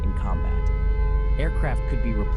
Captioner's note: air raid siren wailing